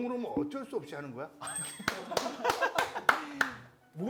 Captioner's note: applause to his teasing